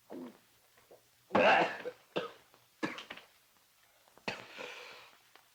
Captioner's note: Hodges coughs